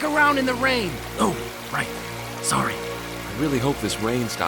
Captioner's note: hushed